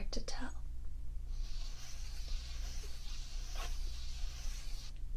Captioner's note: paper sounds